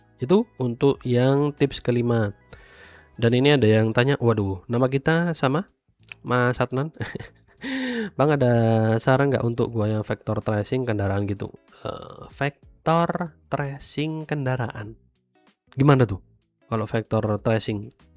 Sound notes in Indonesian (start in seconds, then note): 7.6 terkesiap; 8.0 tertawa